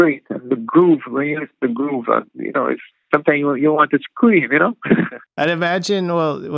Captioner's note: laughter